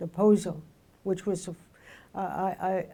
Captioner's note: speaking in foreign language